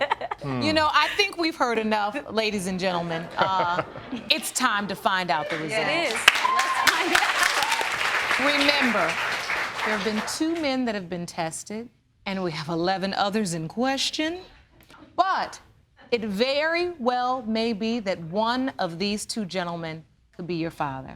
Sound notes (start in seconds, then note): 5.4 audience applauding